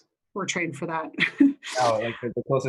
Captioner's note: laughs